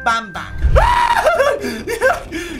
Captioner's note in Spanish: Grita